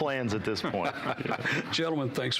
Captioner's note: laughing